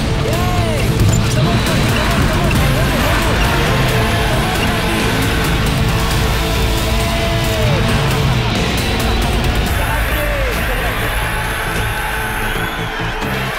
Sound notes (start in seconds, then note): 9.6 loud cheering